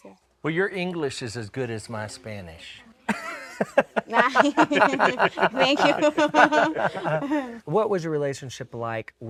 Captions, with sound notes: - Well, your English is as good as my Spanish. (laughing) - Thank you. - What was your relationship like